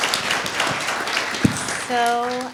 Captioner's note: applause